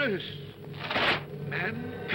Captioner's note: chains rattle